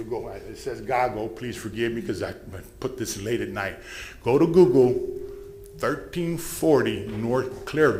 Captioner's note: bell sounds